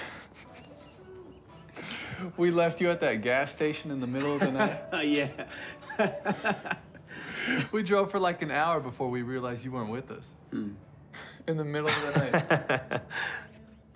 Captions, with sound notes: (laughs) We left you at that gas station in the middle of the night? (Rufus laughs) Yeah. (laughs) We drove for like an hour before we realized you weren't with us. In the middle of the night. (Rufus laughs)